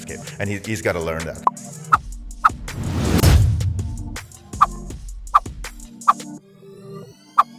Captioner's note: graphic popping; graphic whooshing